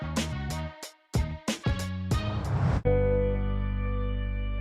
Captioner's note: whoosh